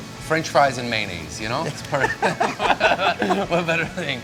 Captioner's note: laughs